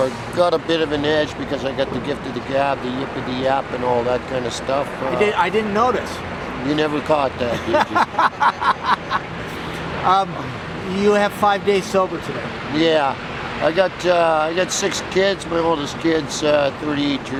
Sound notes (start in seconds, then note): 7.4 laughing